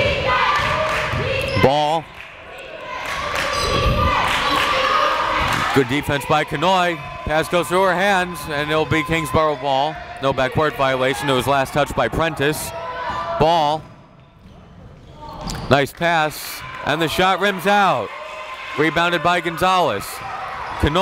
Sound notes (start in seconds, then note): 0.0 crowd chanting defense